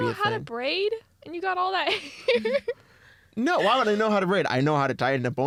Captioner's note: laughs